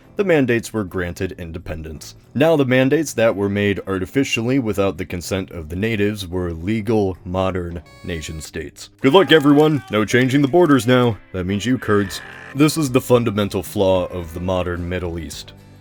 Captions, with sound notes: the mandates were granted independence. Now, the mandates, that were made artificially without the consent of the natives, were legal modern nation states. (sarcastic horn) Good luck everyone! No changing the borders now! (screams) That means you Kurds. (more screams) This is the fundamental flaw of the modern Middle East.